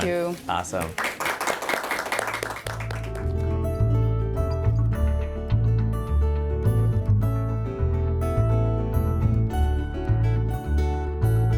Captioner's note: applause